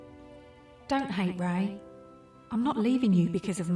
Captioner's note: voiceover